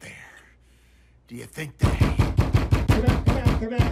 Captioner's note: pounding on door